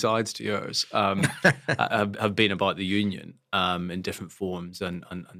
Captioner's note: laugh